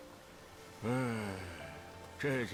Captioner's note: nonverbal grunt as interjection